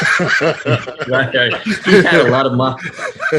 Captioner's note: laughing